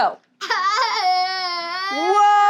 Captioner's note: student laughs